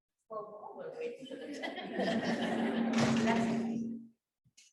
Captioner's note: audience laughs